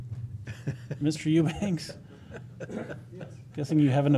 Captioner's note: laughter